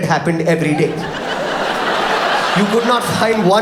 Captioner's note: audience laughs